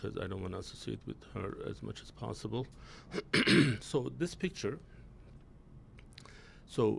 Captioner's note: clears throat